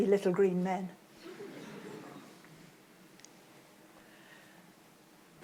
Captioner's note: audience laughs